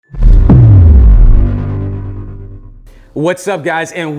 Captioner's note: loud vibration